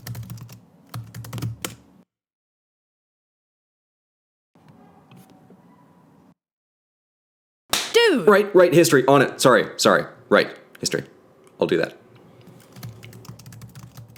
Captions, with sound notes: [slap] Red: dude! Blue: Right! right! history on it. Sorry. Sorry, right history. I'll do that